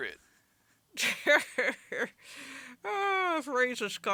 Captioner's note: Leia cackles